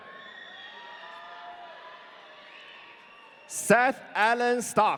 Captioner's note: audience cheering